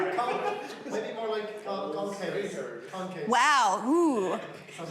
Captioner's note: audience speaking